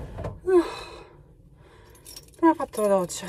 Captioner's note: sighs